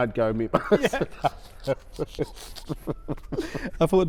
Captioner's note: laughter